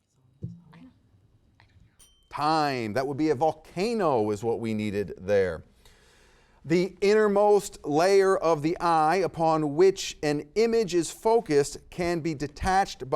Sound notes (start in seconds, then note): 0.1 whispering; 2.0 timer chimes